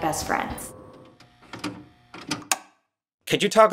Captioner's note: tape deck clicking